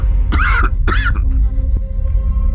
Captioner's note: dry coughing